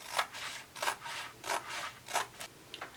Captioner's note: scissors slicing